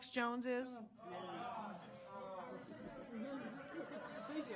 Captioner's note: audience moaning